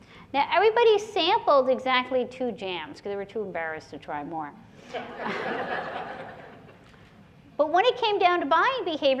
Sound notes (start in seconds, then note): 4.8 laughter